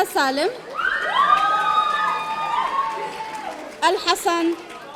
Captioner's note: audience cheering